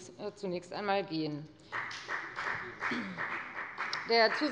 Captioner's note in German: Beifall bei der FDP